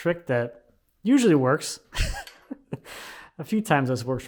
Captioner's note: chuckles